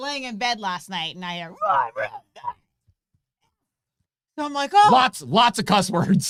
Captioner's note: murmuring